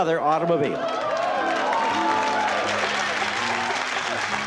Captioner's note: audience cheering